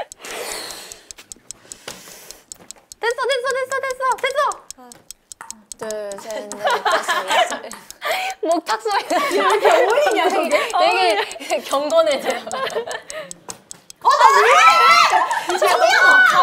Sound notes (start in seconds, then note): 13.4 plop